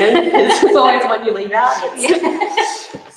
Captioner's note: laughter drowns out speaker